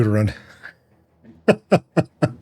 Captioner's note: laughs